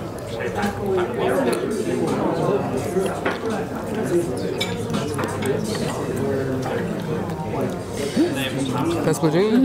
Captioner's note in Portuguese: ambiência de restaurante